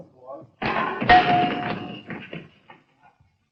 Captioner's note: clanging